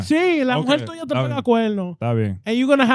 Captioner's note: speaking In Foreign Language